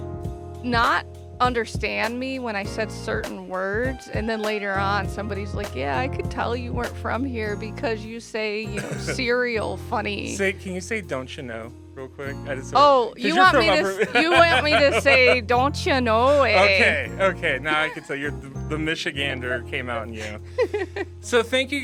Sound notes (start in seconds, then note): 14.4 strong upper Midwest accent: "don't you know?"; 20.6 laughs